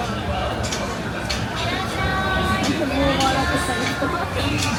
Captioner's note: crowd murmuring